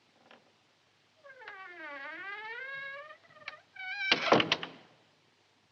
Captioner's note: door creaks, closes